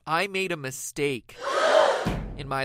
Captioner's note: SFX: Audience dramatically gasping